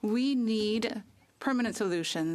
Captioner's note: speaking French